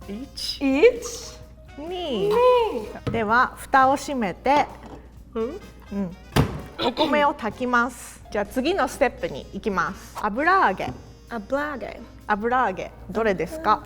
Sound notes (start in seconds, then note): 0.2 speaking in Japanese